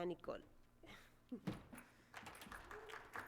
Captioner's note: Aplausos